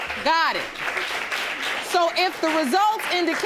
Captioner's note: audience applauding